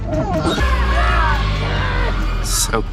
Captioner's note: high-pitched ringing